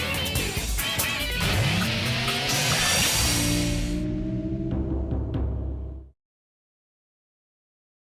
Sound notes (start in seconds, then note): 4.2 logo chiming